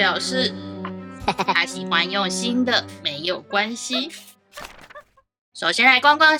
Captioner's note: laughing crookedly~